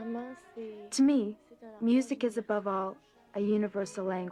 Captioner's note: speaking French